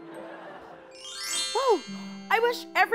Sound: chimes

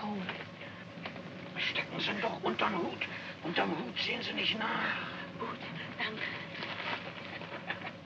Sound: speaking in German

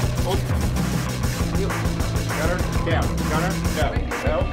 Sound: chattering

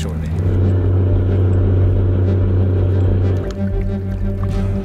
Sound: truck engine roaring; dramatic music

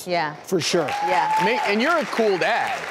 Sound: audience applause

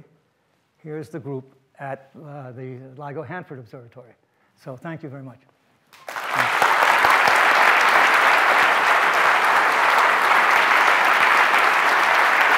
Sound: audience applauds

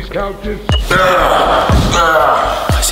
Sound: grunts

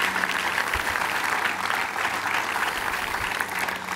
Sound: applause

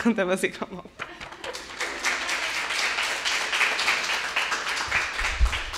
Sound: audience applauding

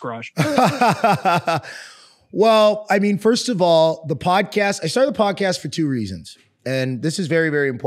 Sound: laugh

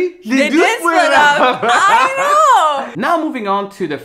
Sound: laughing

